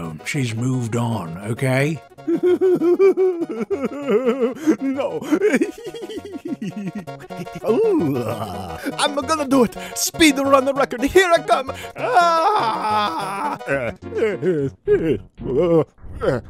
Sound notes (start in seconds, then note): 2.2 Mario sobbing; 12.0 screams; 13.6 Mario sobbing